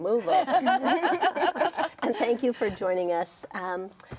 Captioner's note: everyone laughing